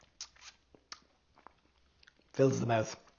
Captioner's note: lips smacking